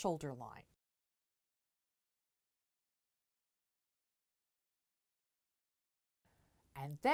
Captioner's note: no Sound Present